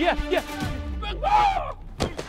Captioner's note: yells